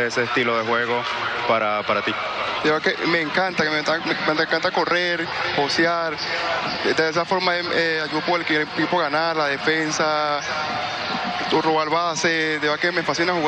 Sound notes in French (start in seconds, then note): 4.2 speaking spanish; 7.2 speaking spanish